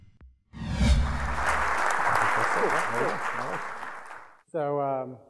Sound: audience applauding

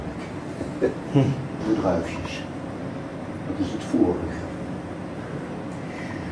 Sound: speaking in foreign language

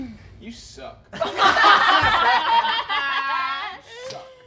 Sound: all laughing

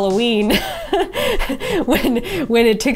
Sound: laughs

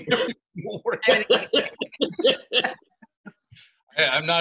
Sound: group laughing

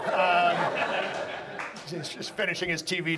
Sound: audience laughs

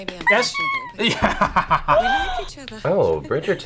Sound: laughs; gasps

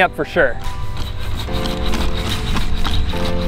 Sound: robot walking

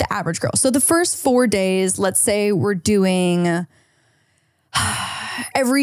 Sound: sighs

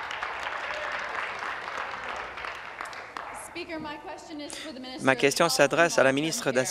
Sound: applause

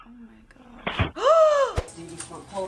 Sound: gasps

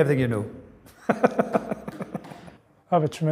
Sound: laughs

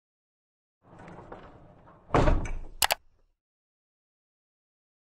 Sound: latch clicking

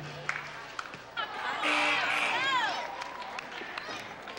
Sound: crowd groans

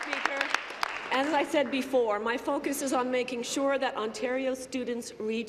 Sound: applause

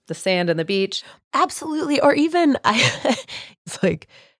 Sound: laughing

